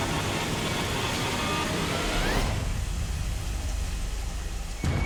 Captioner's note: water running